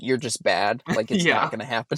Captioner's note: laughs